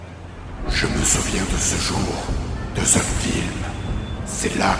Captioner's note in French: voix rauque